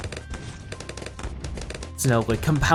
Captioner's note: weapons firing